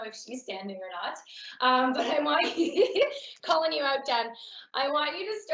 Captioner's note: laughing